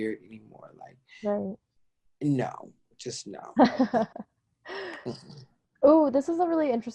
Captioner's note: chuckles